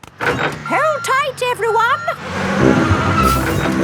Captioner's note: bus beeping